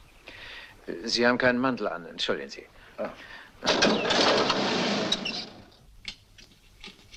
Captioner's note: engine starts